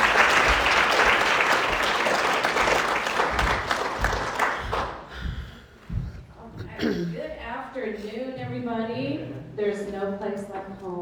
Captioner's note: applause